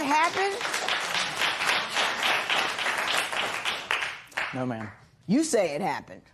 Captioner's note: applause